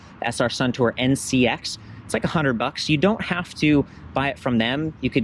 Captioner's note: none